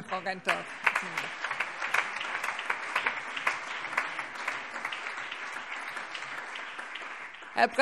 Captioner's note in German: Allgemeiner Beifall